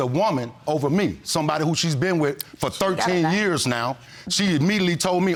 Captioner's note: clicking tongue